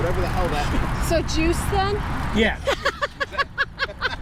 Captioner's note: laughter